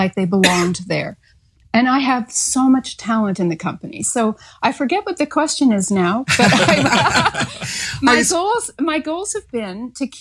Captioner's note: laughs